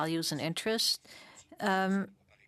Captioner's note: speaking French